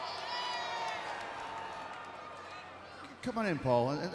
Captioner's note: crowd shouts